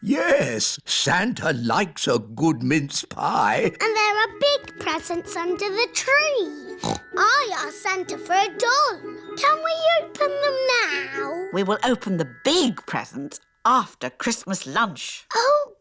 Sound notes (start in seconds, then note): 6.7 snorts